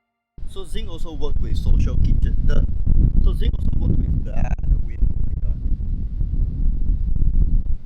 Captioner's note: muffled wind noises